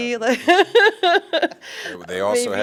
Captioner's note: laughter